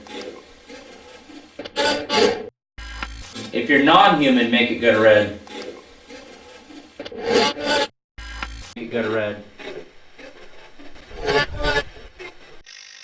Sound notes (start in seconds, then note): 0.1 static playback transmitting; 3.4 static fizzing